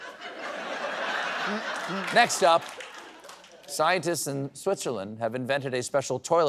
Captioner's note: laughter